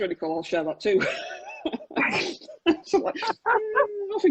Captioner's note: laughs